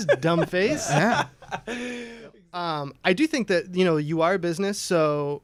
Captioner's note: laughter